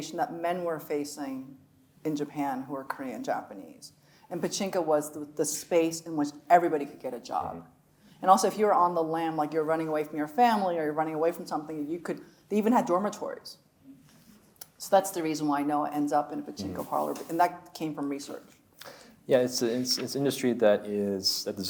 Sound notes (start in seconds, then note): none